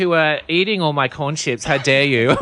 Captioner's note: laughs